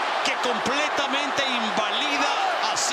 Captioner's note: applause